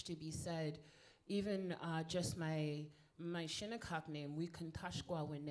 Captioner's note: speaking in foreign language